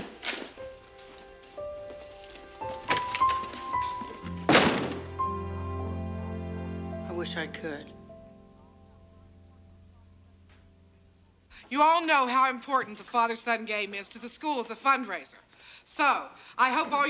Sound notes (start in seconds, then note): 0.1 gentle somber music; 2.8 door slamming